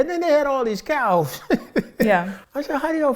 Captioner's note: laughing